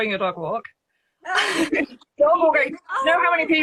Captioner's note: both laughing